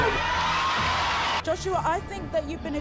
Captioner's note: audience shouting